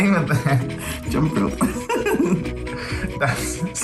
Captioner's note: giggles